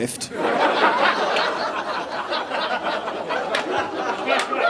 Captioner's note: audience laughing